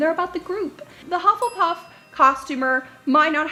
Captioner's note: dings